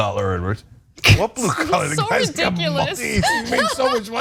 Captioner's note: laugh